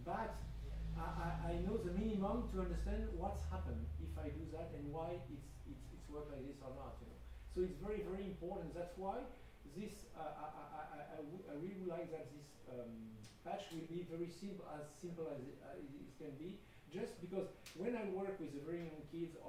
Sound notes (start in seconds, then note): none